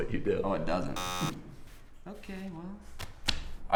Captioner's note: buzzer